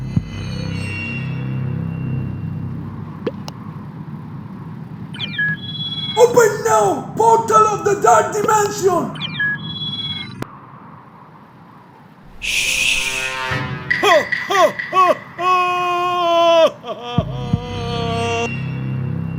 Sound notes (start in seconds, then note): 14.0 evil laughter